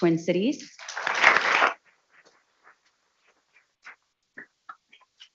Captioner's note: people clapping